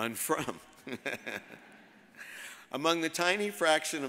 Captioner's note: all laugh